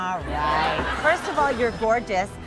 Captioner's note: laughing